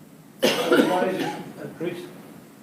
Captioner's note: coughing